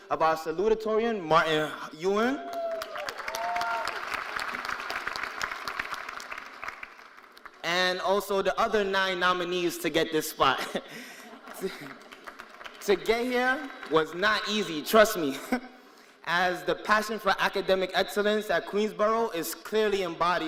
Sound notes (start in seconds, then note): 4.5 cheers and applause